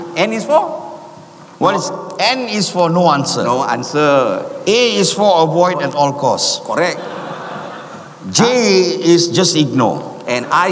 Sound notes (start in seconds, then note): 6.7 audience laughs